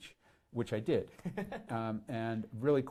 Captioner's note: laughs